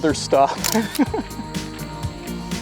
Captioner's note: laughing